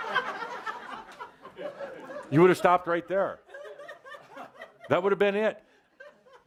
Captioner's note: laughter